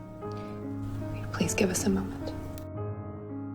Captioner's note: voiceover